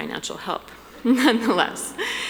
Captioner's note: laughing